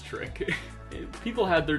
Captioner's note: laughs